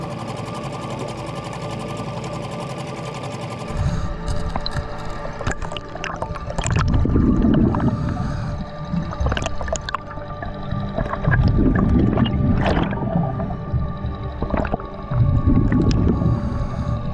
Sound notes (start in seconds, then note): 0.2 boat engine humming; 5.0 muffled underwater sounds